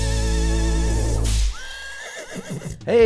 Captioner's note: whip cracks; horse whinnies